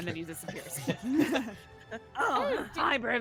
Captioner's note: laughs